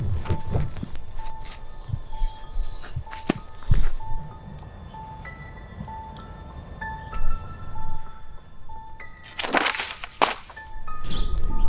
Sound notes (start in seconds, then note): 0.6 scoffs; 9.2 notebook clatters